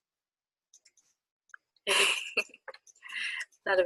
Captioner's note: laughs